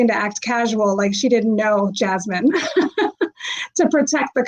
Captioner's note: laughs